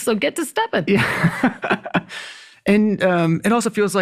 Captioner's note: laughs